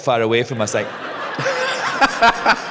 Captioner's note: laughter